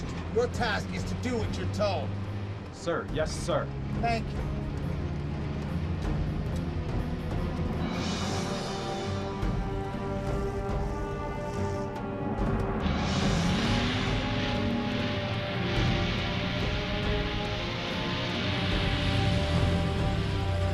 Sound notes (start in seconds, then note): 6.1 dramatic music; 13.1 engine rumbling